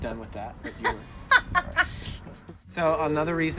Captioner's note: laughing